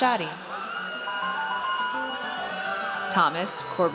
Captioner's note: audience cheers